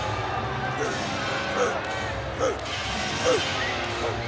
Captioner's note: Vader barking